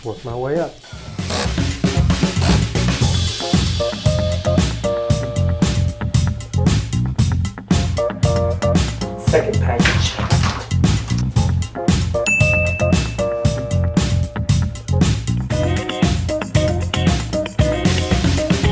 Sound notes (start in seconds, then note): 1.4 jazzy music; 12.2 ding; 14.0 jazzy music